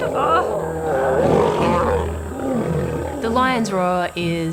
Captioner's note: roars